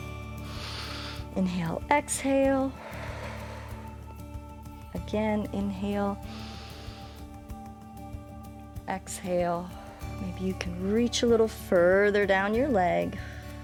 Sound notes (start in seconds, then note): 0.2 inhales; 2.6 exhales; 6.2 inhales; 9.7 exhales